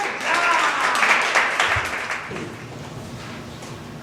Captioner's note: audience applause